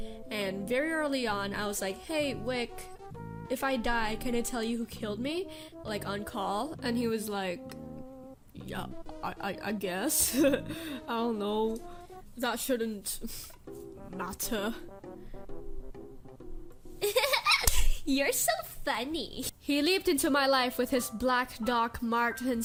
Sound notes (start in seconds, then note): 10.3 nervous chuckle; 17.0 exaggerated girly laugh